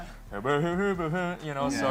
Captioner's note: imitating elvis